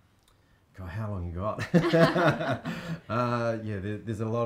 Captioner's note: both chuckling